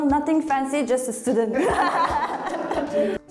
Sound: laughs

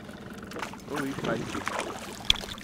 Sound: fish splashing

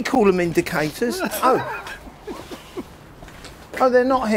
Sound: laughs

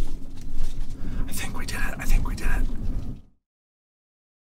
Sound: whispers

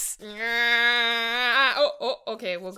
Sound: grunting

